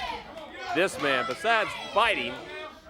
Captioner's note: crowd chatter